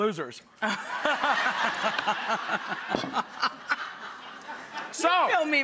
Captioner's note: audience and Rachel laughing